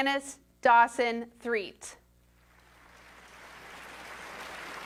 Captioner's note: applause